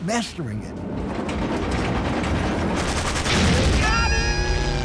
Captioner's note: artillery fire